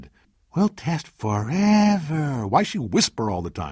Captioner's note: putting on creepy kid voice